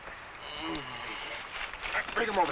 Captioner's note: man groans